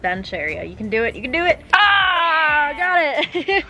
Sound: yells; laugh

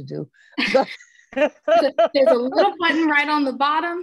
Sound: laugh

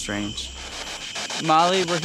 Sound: static pulsing

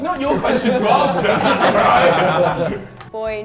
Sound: Sidemen laugh

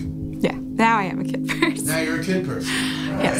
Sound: laughs

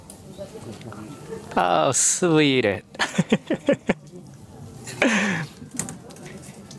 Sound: chuckles

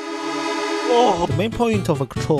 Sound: haha funny noise

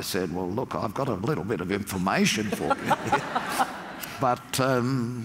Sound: laugh

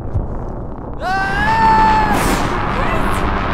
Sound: screams

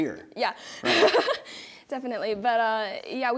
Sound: laughing

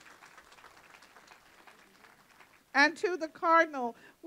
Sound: applause

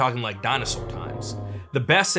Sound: dinosaur roars

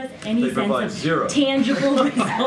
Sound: laughter

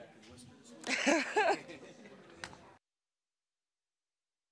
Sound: laughing

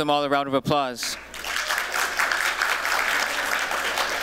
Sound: applause

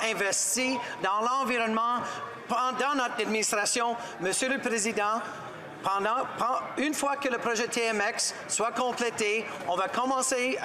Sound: speaking French

